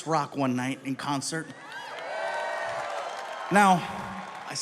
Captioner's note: audience cheering; audience applauding